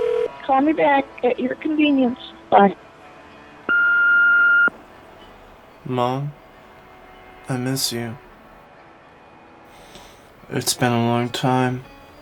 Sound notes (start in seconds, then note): 3.7 beeping